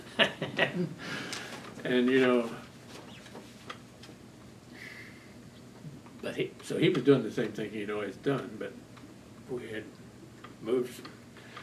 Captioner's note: laughs